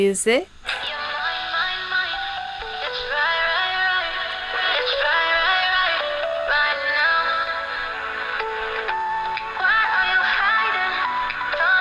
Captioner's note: microcassette plays with a lot of WOW and Flutter. It sounds rather spooky